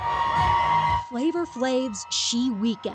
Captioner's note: cheers